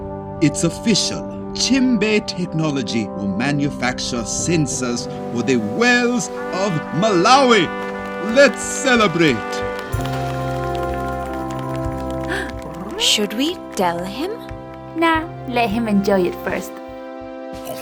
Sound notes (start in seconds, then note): 9.7 applause